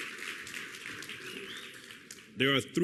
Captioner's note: applause